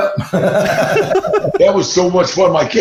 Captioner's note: laughs